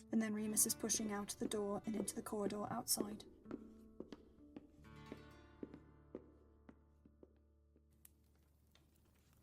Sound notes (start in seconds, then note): 2.9 footsteps fade; 2.9 footsteps